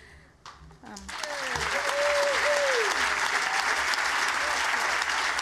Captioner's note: cheering, applause